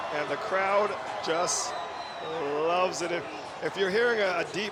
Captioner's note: cheers and Applause